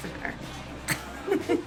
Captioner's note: laughs